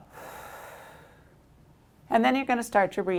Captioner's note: exhales